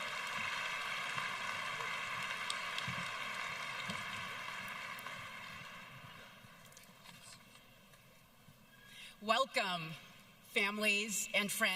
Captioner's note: applause